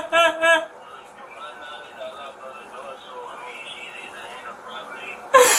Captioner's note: radio chatter